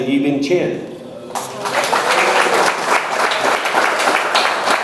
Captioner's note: audience applauds